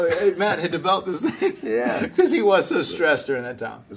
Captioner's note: laugh